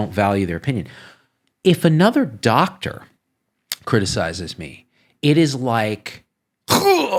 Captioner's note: grunts